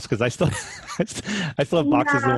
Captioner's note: laughing